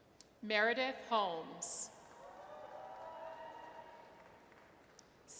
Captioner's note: audience cheers